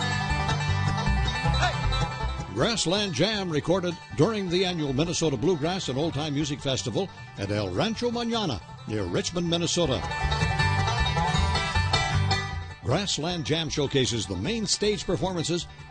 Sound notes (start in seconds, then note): 0.1 bluegrass music; 2.4 voiceover